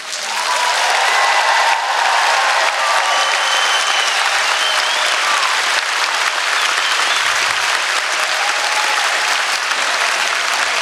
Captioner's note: applause